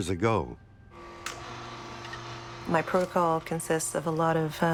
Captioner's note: juicer whirs